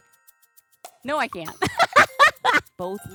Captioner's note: laughs